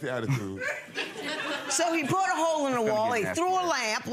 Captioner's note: audience laughing